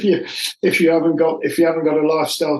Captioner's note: laughs